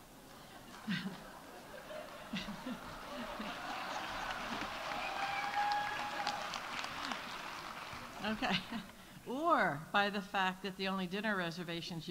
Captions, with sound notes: -(audience applauding) -(audience cheering) Okay, or by the fact that the only dinner reservations